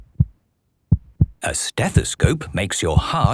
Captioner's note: heart beating